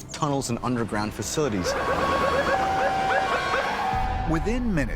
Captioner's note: first responder sirens wailing